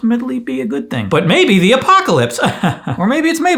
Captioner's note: laughs awkwardly